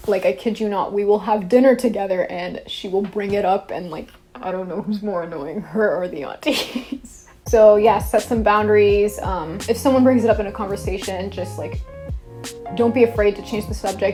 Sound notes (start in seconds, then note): 6.8 laughs